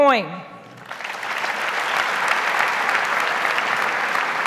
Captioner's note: audience applauds